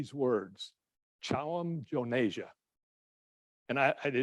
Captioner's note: speaking in foreign language